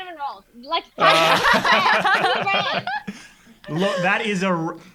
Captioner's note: everyone laughing